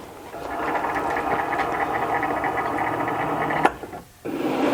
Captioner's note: machine buzzing